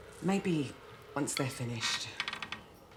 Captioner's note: none